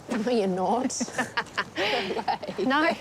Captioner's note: both laugh